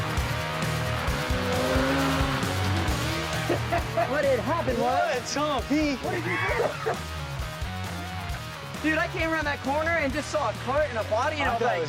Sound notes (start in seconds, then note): 3.4 laughter